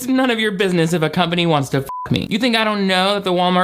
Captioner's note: beep